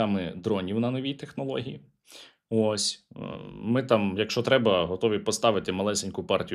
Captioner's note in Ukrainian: сопіння